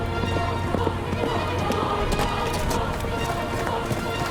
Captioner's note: running footsteps